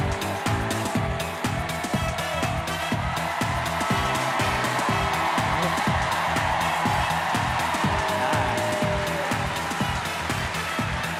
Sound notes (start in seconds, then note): 3.4 cheers and applause